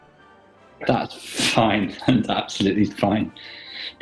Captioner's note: chuckling